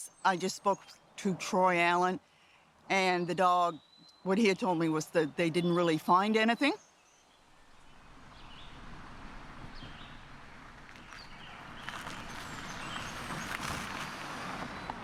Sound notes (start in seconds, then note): 7.6 tires crunching; 9.6 birds chattering